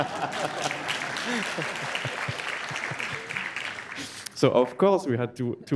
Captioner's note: audience applauds